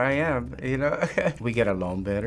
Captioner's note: laughing